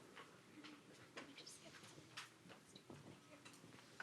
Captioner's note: whispering